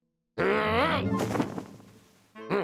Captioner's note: growls